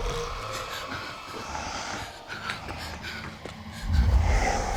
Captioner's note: growling; heavy breathing